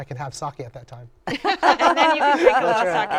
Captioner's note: laughter